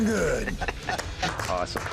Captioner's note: laughter